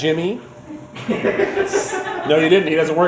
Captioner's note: crew laughing